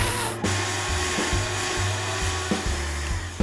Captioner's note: vacuum cleaner running